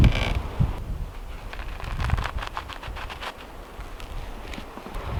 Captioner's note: pencil scraping